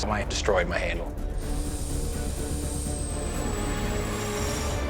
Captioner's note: machine whirring